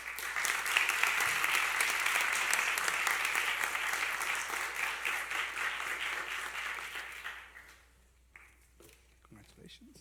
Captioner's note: applause